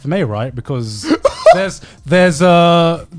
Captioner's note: laughing loudly